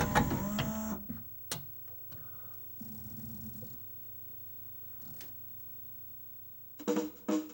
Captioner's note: click, disc spins, laser makes seeky noises